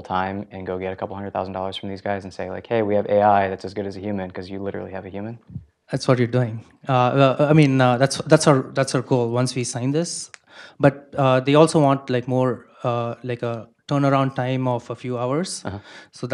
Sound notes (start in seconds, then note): none